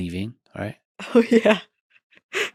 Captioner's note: chuckles